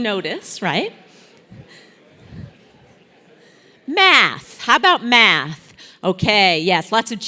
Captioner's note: laugh